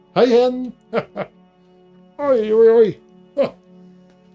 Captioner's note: Santa laughs and complains a little about his back